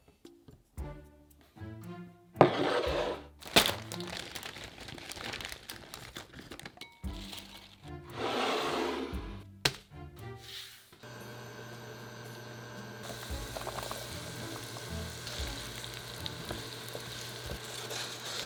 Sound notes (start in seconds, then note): 3.4 paper bag rustling; 13.5 sizzling